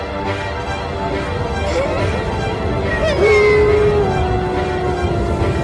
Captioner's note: cries